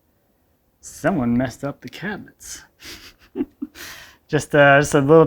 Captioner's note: chuckles